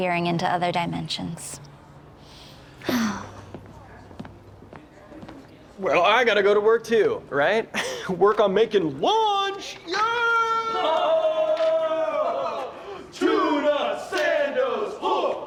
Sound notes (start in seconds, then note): 2.5 sigh